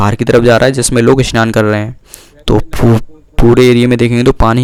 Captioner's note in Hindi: नाक से की जाने वाली आवाज़